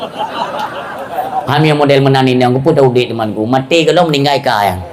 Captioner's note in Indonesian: tertawa